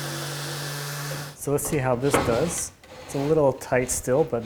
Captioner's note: drawer clunking